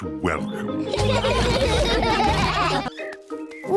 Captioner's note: all laugh